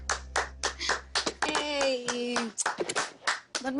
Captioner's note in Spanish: Aplausos